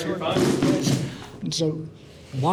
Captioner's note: chair scraping